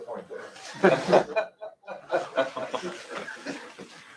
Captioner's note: laughter